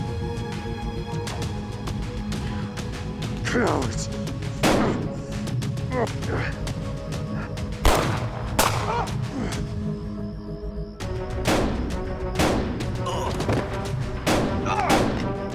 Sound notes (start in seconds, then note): 4.4 gunfire; 11.4 gun shots, groans